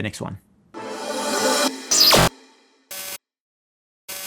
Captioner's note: animation zapping